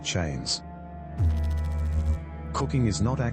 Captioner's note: electrical noise